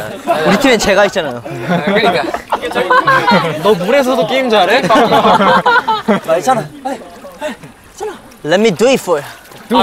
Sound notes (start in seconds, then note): 4.6 just laughing